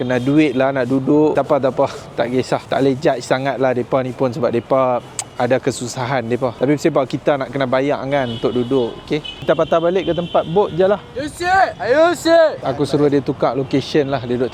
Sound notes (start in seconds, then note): 11.2 speaking Arabic